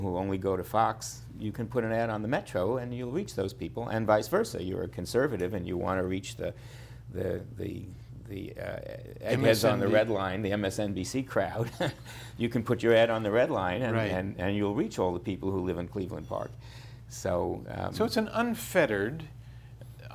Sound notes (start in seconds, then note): 11.8 laughs